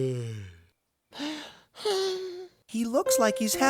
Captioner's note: yawning; sigh of fatigue